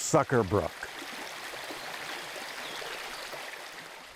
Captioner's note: water babbling